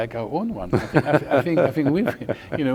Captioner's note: laughing